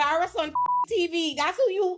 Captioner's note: beep